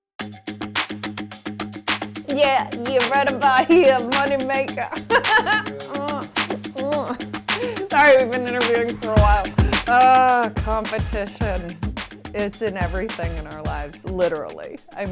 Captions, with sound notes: (upbeat music) - Yeah, we're right about here, money maker! (laughs) Sorry, we've been interviewing for a while. Ah, competition. It's in everything in our lives, literally.